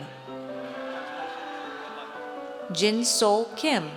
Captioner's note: audience cheers